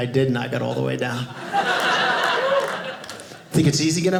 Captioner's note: audience laughing